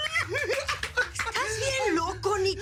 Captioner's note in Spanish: Aplausos